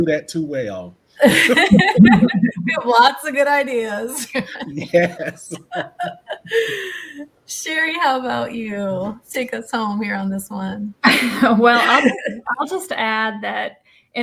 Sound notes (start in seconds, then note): 1.2 laughs